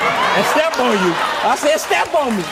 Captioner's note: audience laughs